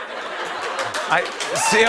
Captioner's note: laughter; applause